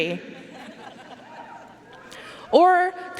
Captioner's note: audience laughing and cheering